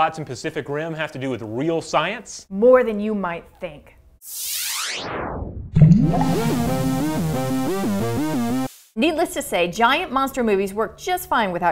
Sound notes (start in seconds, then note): 4.2 laser sound; 6.1 synthesizer music